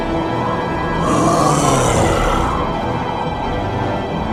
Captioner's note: beast grunts